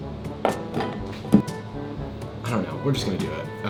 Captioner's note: lid closes